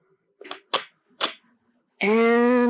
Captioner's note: SFX: phone clicks, crackles